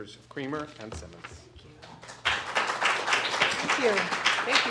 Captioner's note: applause